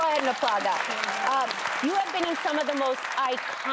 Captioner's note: applause